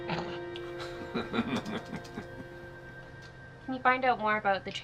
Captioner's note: group laughing